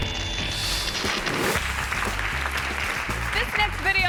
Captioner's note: screen whooshes; audience clapping